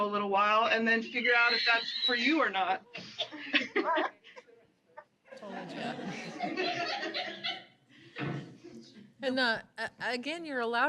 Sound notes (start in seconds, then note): 3.4 laughter